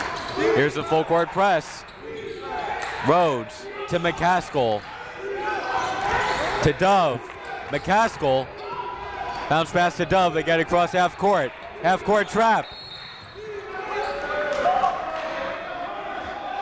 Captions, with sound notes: Here's the full court press. Rhodes to McCaskell to Dove. McCaskell bounce pass to Dove to get it across half court. Half court trap. (whistle blows)